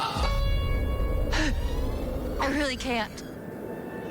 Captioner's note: gasps